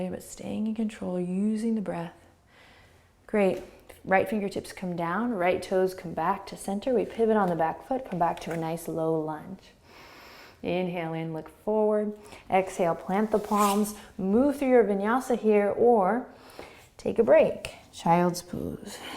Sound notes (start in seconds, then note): 9.9 inhaling; 18.9 exhaling and inhaling